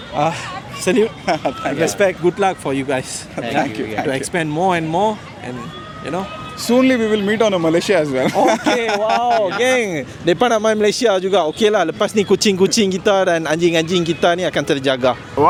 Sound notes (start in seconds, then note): 8.2 laugh